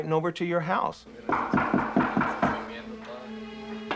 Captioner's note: knocking